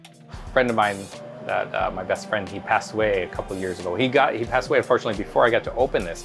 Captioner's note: upbeat music; water hissing